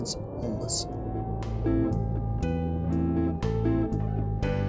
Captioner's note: siren blares